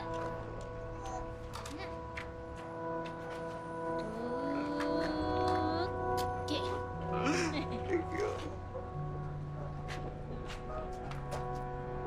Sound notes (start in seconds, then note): 7.1 gentle crying